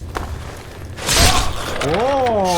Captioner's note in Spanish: el personaje gruñe